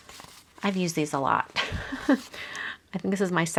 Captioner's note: laughs